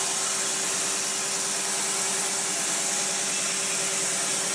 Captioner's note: saw whirring